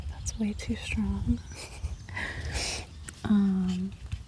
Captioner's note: laughs